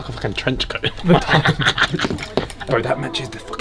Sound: laughs

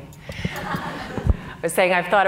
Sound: audience laughing

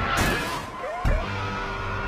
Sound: even more screaming

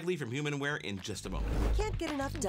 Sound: air whooshing

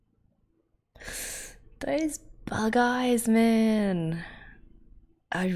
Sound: sharp inhale

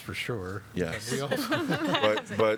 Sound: laughter

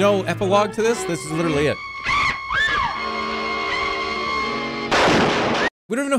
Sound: bat shrieks; gunshot

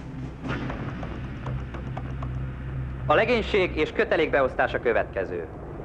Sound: buzz

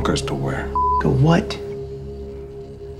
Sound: beep

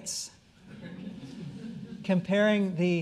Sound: audience chuckling

